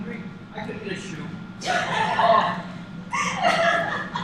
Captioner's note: laughs